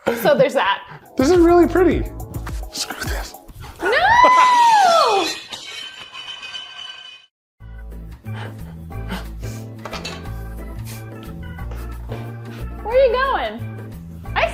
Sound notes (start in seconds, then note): 4.9 glass shattering